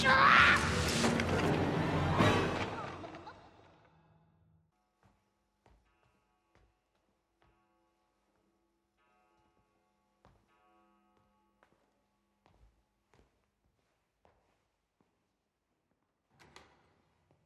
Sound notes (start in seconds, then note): 1.8 voice fades; 5.8 clock chimes